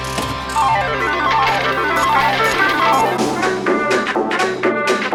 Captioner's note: slot machine whirring; upbeat music